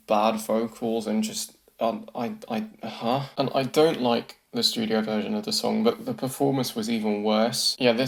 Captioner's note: stammers